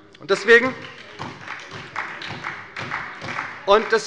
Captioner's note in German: Beifall bei der SPD